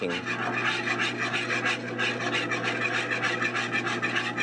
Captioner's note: whisking